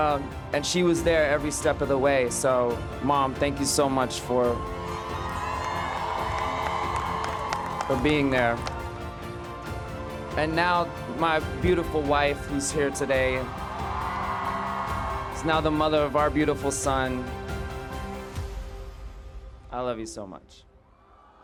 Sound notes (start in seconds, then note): 4.5 audience cheering and clapping; 13.3 audience cheering; 17.0 inspiring music